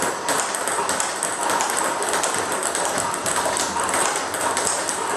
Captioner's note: ball ping pong hitting continues